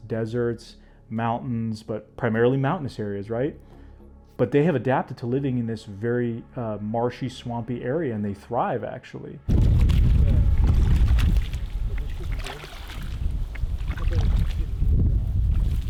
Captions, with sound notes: deserts, mountains, but primarily mountainous areas, right, but they have adapted to living in this very marshy, swampy area, and they thrive actually. (footsteps splashing)